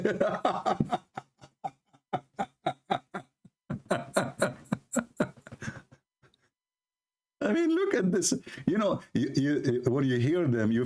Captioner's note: Ketawa